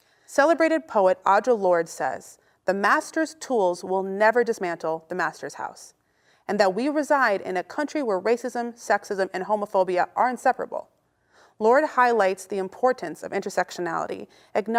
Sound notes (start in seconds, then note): none